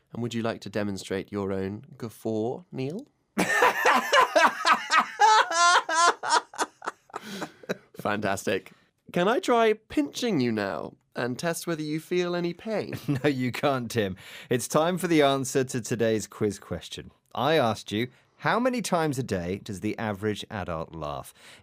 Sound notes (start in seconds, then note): 3.4 爽朗的咯咯咯; 4.4 hearty guffaw